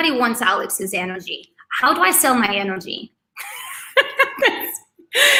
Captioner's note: laughs